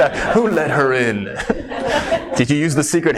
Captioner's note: laughs